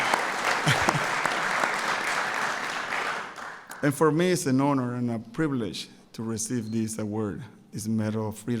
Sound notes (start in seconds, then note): 0.0 applause